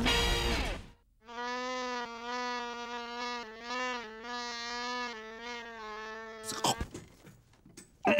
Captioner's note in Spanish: Sonido de una mosca volando en el estudio